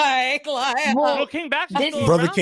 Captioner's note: laughing